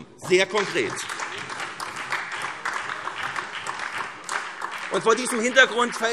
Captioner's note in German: Beifall SPD